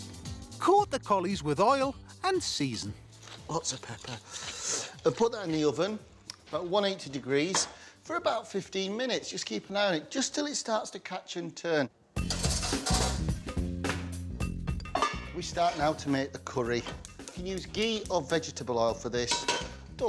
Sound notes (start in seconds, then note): 12.2 pan clanging; 12.2 upbeat music; 16.8 stove clicking